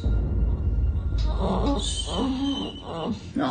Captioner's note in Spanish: Gemidos